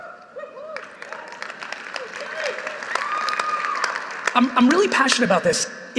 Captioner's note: audience applauding